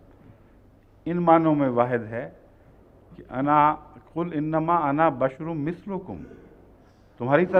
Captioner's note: Arabic